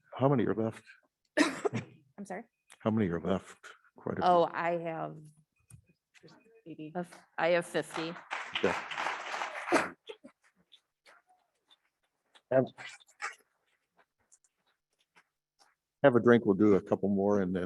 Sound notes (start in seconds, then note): 1.3 coughs; 7.4 audience clapping